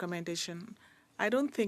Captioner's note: speaking French